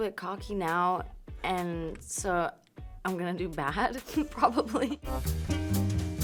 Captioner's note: laughing; upbeat music